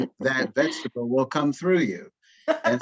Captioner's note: laughs